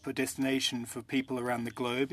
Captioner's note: speaking french